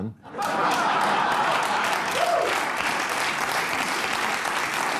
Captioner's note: audience laughing, applauding